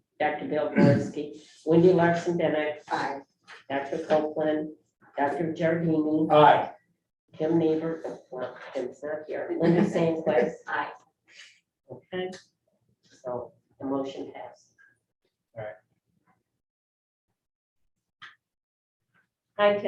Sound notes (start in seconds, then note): 9.8 attendees laugh